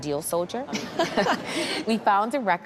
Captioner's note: chuckles